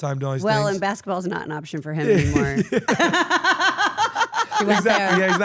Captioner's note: laugh